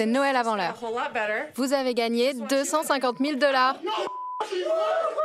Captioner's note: beep